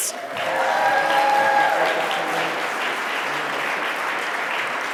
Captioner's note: audience applauding